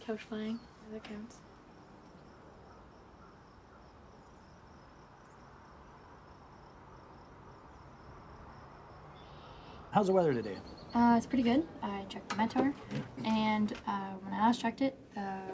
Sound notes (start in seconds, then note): 3.7 birds chirping